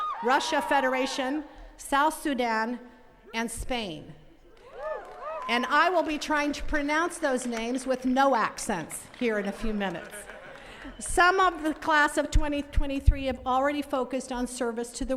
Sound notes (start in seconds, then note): 0.0 attendees cheering; 4.6 attendees cheering; 9.9 attendee laughing